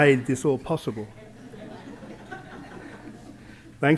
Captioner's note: laughter